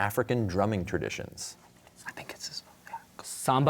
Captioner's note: whispering